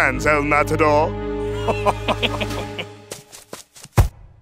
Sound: laughs

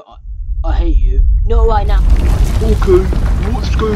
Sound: ground rumbles

